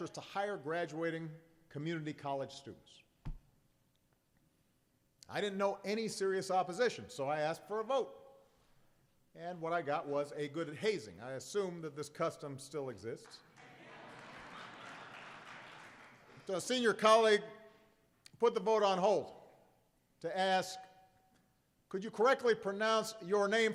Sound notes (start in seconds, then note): 13.5 applause and laughter